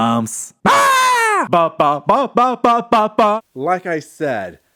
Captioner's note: scream